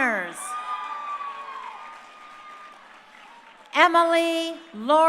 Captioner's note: crowd cheering